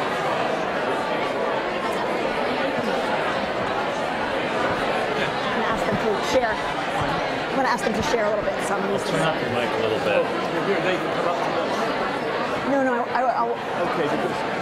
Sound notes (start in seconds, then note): 2.2 audience chatter